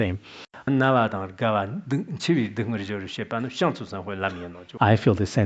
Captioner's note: citing scripture in Tibetan